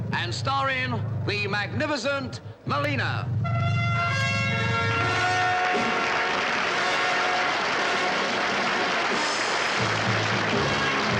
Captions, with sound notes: and starring the Magnificent Melina. (grand orchestral music) (audience applauds)